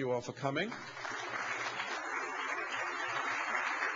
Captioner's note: applause